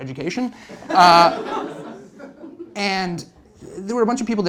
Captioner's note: laughter